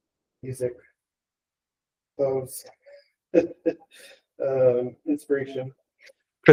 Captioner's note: laughing